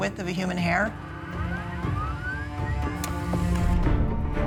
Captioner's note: humming